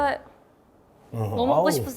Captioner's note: choking up